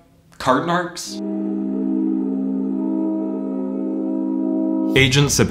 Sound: ominous droning sound

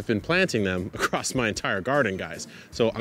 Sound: laughs

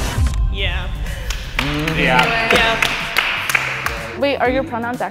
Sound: everyone claps

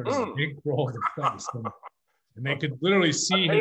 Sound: laughs

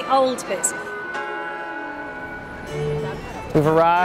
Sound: bell chimes

